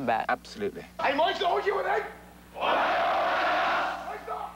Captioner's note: shouting